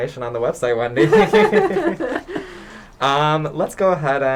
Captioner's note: laughter